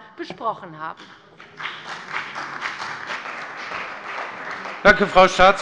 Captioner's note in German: Beifall bei der CDU und dem BÜNDNIS 90/DIE GRÜNEN